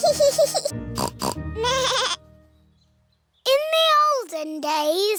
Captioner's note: both giggling; snorts; bleats